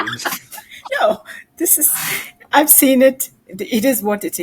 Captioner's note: laughing